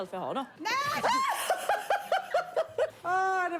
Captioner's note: laughter